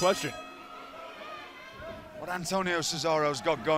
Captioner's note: bell ringing